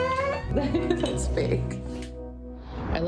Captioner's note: laughs